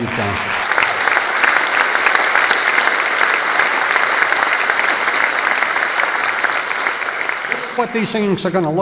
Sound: applause

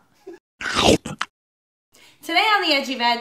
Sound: gulping noise

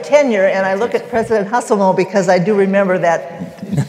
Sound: laughter

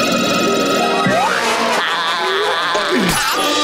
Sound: laughing

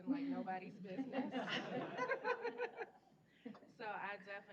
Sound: laughter

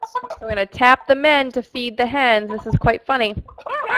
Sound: voiceover

